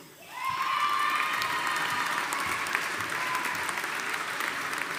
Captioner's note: audience applauding